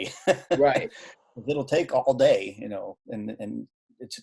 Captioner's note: laughing